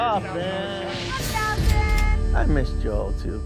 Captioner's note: cash register dings